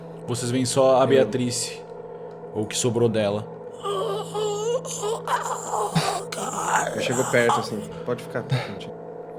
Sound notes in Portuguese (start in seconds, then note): 3.7 gemidos; 7.8 Argh